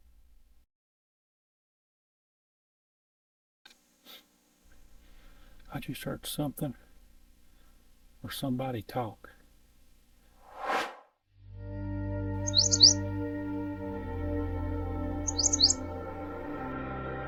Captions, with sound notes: I just heard something or somebody talk. (air swooshes) (bird chirping) (peaceful music)